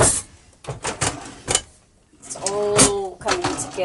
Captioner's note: drawers opening and closing